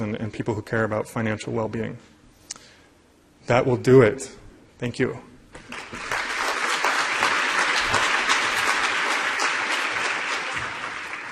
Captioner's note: applause